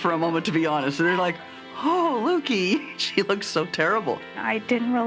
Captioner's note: laughs